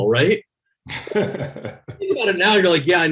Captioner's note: laughs